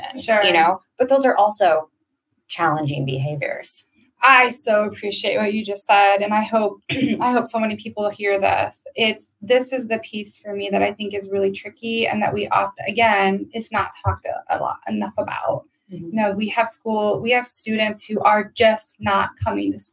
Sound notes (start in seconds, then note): 6.8 coughs